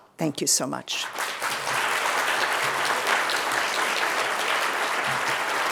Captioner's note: audience clapping